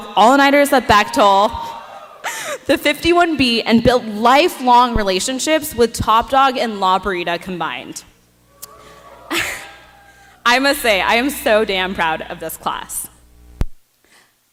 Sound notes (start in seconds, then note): 8.5 cheering